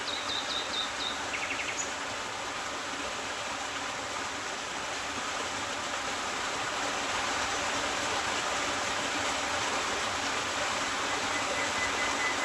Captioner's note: plays nightingale recording